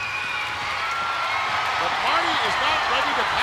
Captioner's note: audience cheering